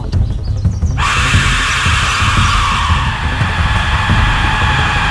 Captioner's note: whistle shrieks